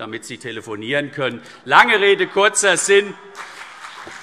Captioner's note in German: Heiterkeit und Beifall CDU und BÜNDNIS 90/DIE GRÜNEN